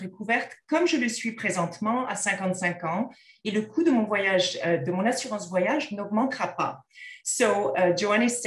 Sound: content in French

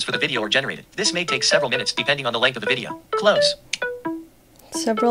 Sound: Seeing AI sounds

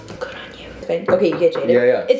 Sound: knocks on door

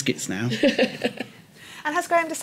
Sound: laughter

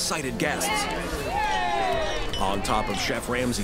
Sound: cheering

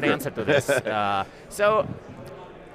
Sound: laughing

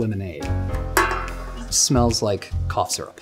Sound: can clanging

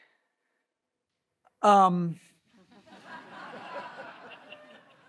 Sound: audience laughs

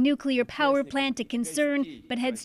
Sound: speaking alternate language

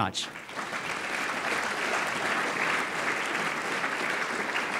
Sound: audience applauding

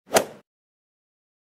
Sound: swoosh

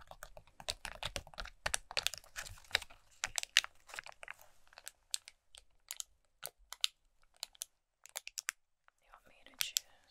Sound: crinkles

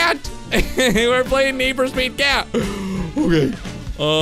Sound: laughing

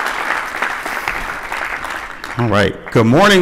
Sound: applause

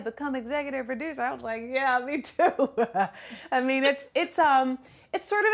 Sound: laughter

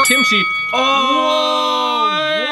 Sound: bell dinging

